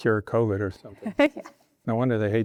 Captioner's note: laughing